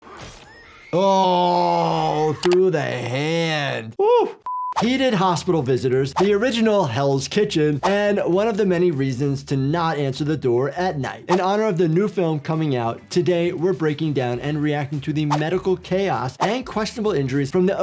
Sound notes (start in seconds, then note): 0.5 Tara screaming